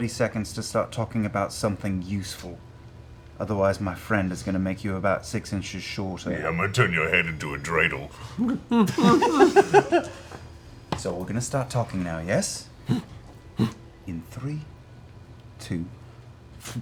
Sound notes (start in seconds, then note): 12.8 grunts in agreement